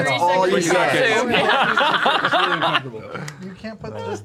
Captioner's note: laughter